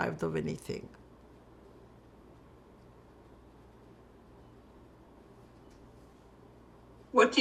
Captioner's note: pauses 6 seconds